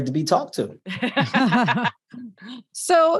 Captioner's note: laugh